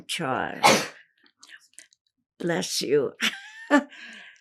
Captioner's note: sneezing